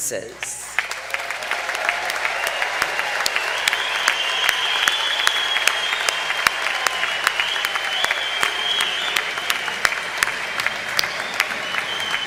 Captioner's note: applause